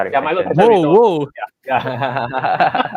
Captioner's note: laughter